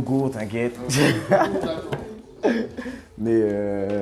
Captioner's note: Rires